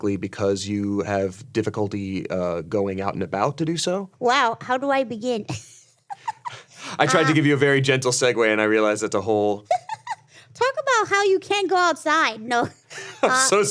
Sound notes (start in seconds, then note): 6.0 laughs; 9.7 Ironmouse laughs